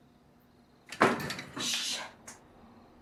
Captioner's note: banging